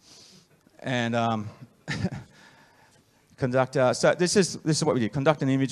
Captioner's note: laughs